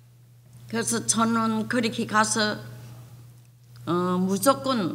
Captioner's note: speaking foreign language